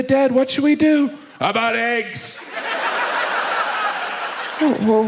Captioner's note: audience laughs